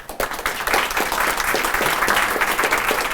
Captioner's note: applause